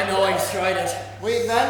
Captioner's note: audience laughs